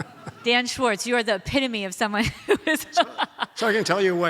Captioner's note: audience laughs; laughs